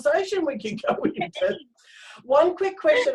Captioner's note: both laughing